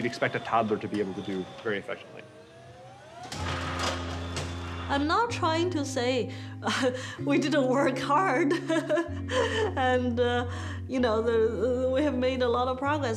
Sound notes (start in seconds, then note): 2.6 whirring; 4.8 laughing